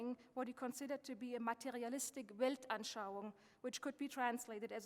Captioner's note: speaking German